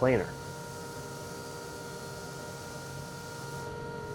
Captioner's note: machines whirring